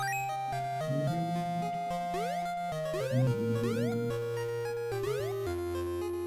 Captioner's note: humming along